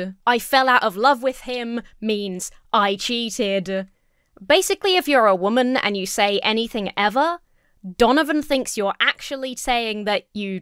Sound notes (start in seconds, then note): none